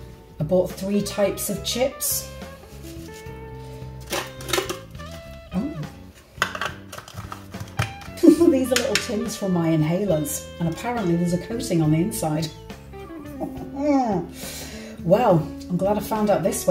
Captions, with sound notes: I bought three types of chips Oh? [SCRAPING SOUND] These are little tins from my inhalers, and apparently ;there's a coating on the inside! Well, I’m glad I found out this way,